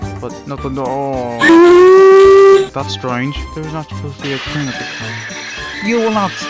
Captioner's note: hears whistle